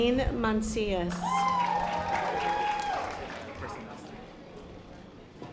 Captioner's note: audience applause